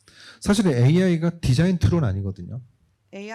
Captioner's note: speaking korean